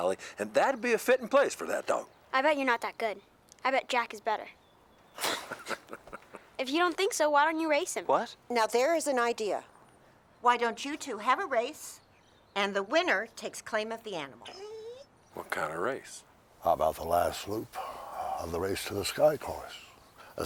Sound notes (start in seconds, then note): 5.2 Heep laughing; 14.4 Buck whimpers